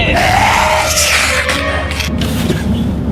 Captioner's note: growling